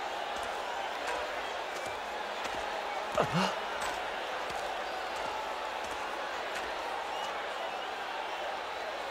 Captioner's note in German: beifall